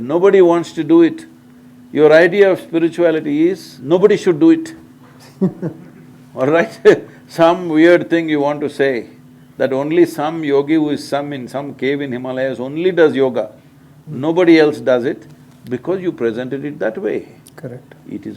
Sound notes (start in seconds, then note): 5.1 few laugh